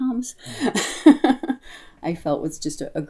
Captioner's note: soft chuckle